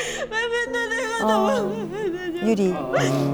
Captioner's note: aww